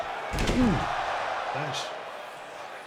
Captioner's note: body thuds